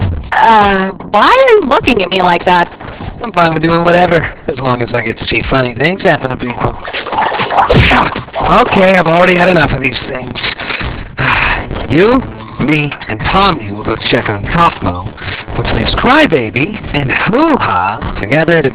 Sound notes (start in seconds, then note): 10.6 sighs